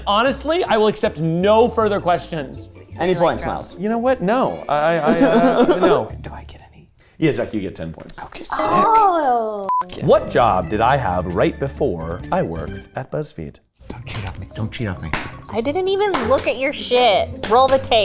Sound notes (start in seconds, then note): 5.0 laughing